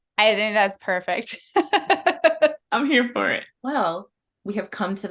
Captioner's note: laughter